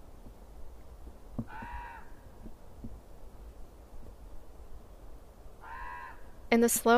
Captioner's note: Norwood ravens and wind